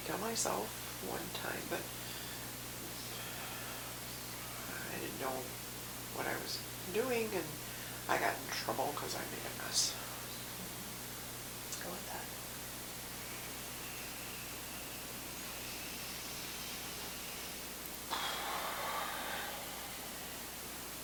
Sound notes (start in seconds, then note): 14.4 breathing deeply